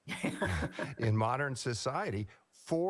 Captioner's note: laughs